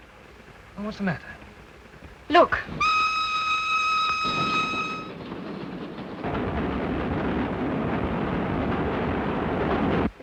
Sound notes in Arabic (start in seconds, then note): 2.7 صافرة القطار; 5.2 هدير القطار